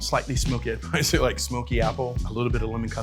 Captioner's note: laughs